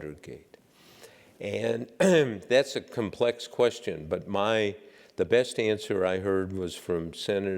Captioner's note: cough